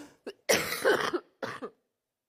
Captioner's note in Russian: мария ситтель кашляет